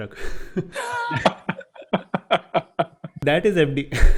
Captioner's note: laughing